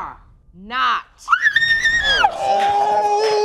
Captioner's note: screams